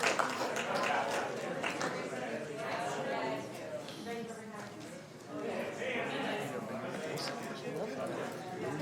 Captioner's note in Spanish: aplausos